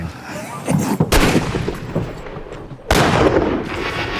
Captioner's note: gunshots